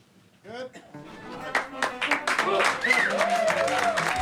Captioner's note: all cheering